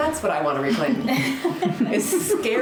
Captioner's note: group laughing